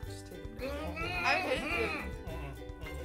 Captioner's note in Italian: geme